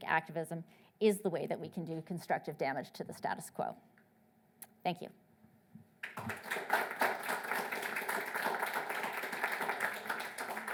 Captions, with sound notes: activism is the way that we can do constructive damage to the status quo. Thank you. (audience applauding)